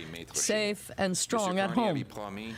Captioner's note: speaking French